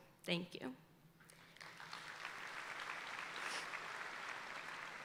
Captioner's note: audience applauding